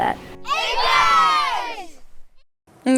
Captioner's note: all cheer